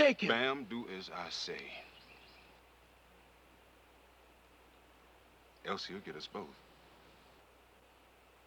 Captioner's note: none